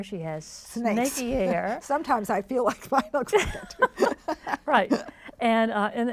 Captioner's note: laughs